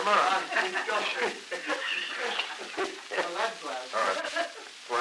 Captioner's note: laughter